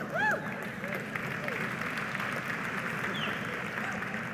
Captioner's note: audience applauding